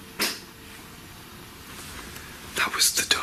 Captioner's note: clicks